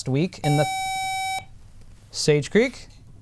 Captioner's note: buzzer